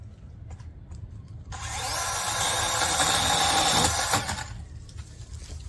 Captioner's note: chainsaw revs